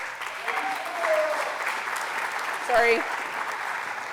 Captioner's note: applause